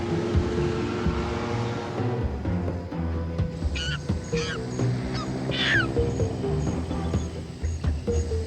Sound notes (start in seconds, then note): 3.7 monkey screeching